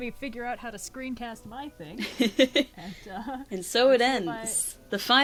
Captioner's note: laughs